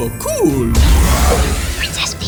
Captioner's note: mimi roars